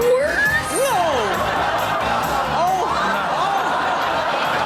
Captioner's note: audience laughs